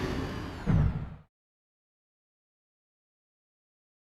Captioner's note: silence